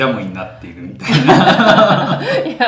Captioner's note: laughs